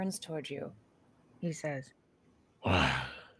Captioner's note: heavy voice